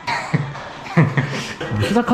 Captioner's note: laughs